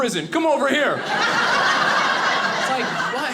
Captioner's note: audience laughing